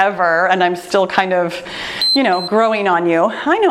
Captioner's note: timer beeps